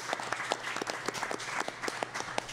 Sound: applause

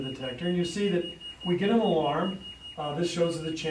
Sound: alarm beeps

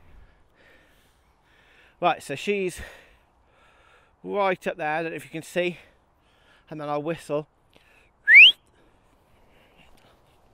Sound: whistle

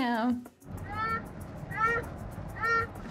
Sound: baby fusses

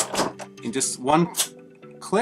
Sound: clicking

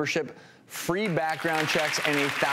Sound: audience applause

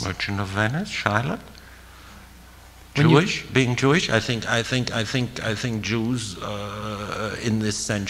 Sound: foreign language 01:43:34

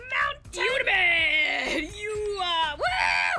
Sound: laughs

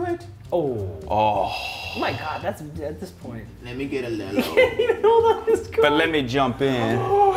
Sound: laugh

